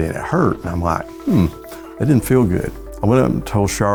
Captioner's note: moans